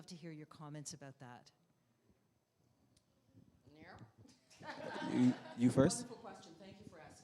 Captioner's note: laughter